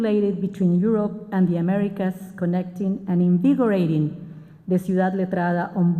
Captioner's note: spanish